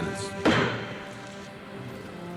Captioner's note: gavel bangs; pensive music continues